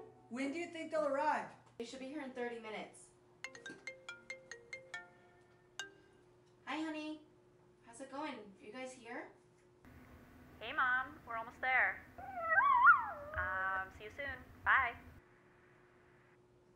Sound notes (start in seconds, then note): 3.5 phone rings; 10.3 on phone; 12.3 dog barking; 13.3 on phone